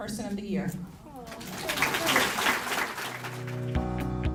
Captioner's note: applause; upbeat music